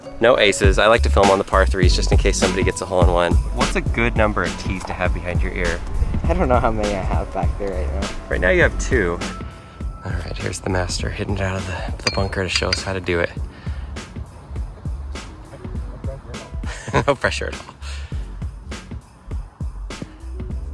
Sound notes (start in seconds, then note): 16.5 laughs